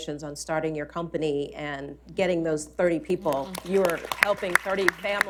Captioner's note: applause